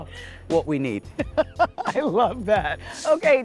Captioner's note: laughing